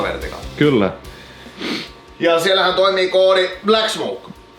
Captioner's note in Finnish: niiskautus